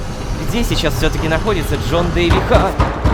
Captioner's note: knocking on door